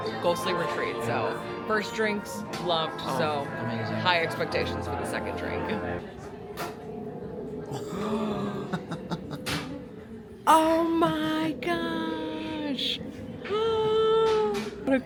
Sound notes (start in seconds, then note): 7.7 gasping; 7.7 giggles; 13.5 gasps